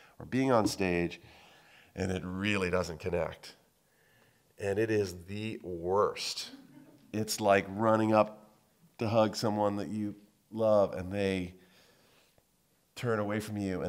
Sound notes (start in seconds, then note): 6.4 audience laughing